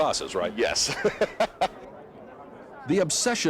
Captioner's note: laughs